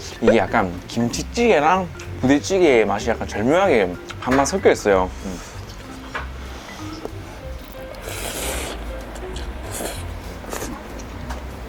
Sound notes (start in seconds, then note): 7.6 slurping noodles X 9